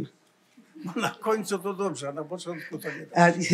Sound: foreign language

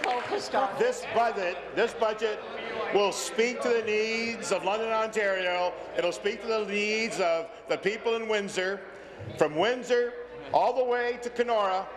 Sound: applause

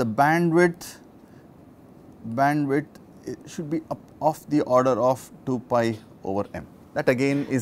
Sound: distortion

